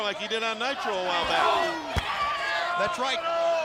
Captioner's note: savage screams